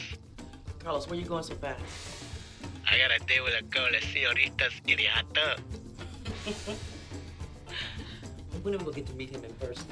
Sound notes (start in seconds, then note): 3.6 voiceover; 6.9 laughing